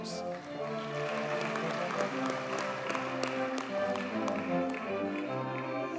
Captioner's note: audience cheers and applauds